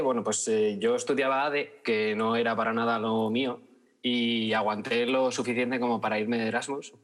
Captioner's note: none